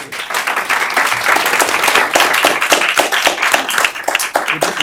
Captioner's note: applause